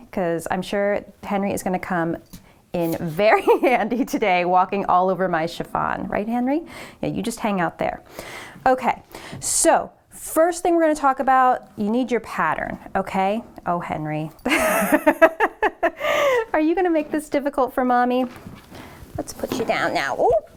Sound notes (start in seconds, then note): 14.4 laughs